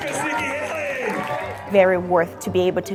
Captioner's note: crowd cheers